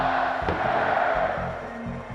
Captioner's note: crowd cheering